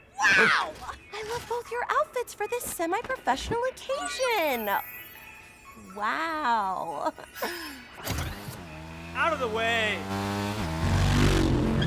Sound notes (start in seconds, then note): 3.5 digital chimes; 8.0 motorcycle accelerating; 11.6 tires screeching